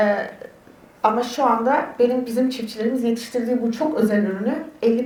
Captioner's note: speaks in Turkish